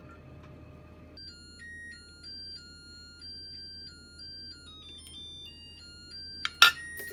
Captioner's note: the rice cooker is singing 🎶😅